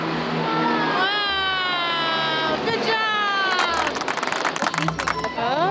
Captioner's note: clapping